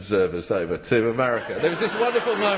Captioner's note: laughter